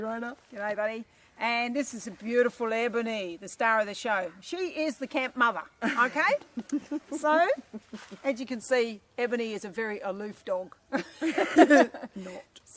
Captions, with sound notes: Gday Rona Gday buddy And this is the beautiful Ebony, the star of the show She is the camp mother ok (Laughter) So as you can see Ebony is a very aloof dog (Laughter) Not